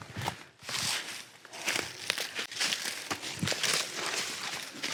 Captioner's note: leaves crunching